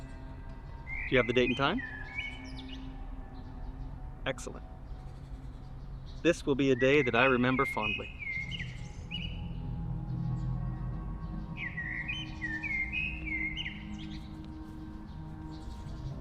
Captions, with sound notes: Do you have the date and time? Excellent. This will be a day that I remember fondly. [suspenseful music] [birds chirping]